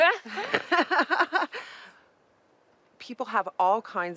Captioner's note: laughs